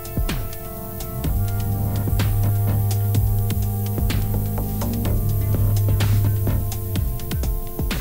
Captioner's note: very quiet humming sound